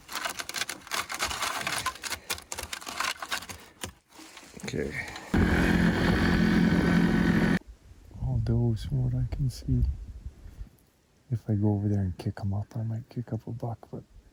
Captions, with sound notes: Okay. (ATV engine rumbling) All does, from what I can see. If I go over there and kick 'em up,